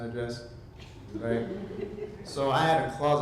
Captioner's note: audience laughs